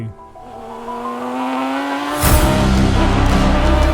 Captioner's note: engine roaring; exciting dramatic music